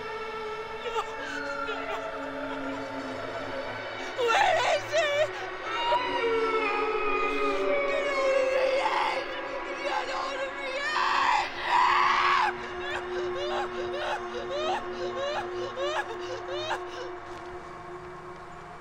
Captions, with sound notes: No! Where is he? (Brigit sobbing) Get out of me head! Get out of me head! (Brigit screams) (Brigit sobbing)